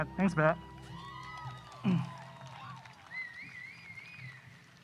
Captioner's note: audience applause